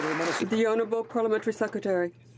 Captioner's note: some Applause